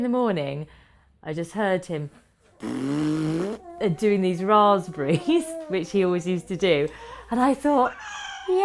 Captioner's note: blows raspberry